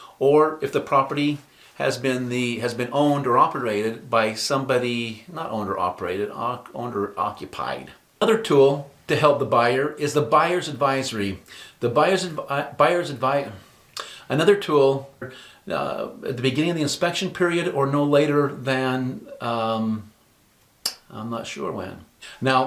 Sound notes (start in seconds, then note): 13.9 heavy sigh